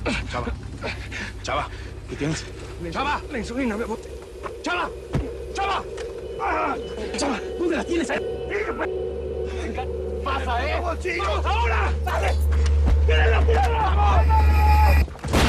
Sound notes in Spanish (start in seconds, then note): 8.3 Hablan al unísono; 15.2 Explosión